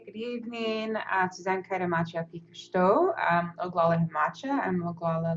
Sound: speaking in Lakota language

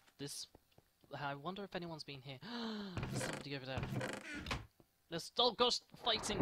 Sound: gasp

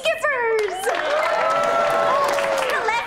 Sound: cheering

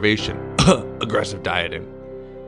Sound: cough

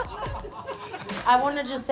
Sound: laughter

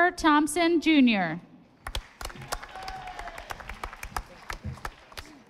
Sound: audience applauding

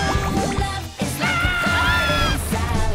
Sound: laughing; screaming

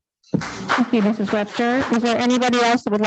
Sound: audience clapping

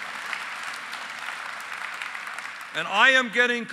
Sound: applause

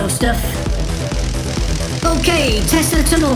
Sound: electricity crackling

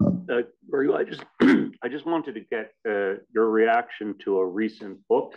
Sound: cough

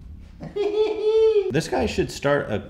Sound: physco laugh

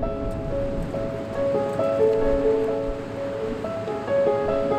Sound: waves crashing

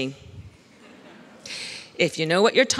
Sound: laughs

